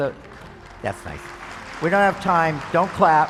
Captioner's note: applause